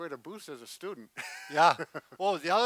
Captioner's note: laughs